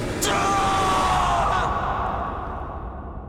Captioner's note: coughing; screaming loudly